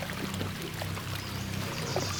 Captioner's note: water splashing